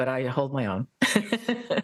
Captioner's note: laugh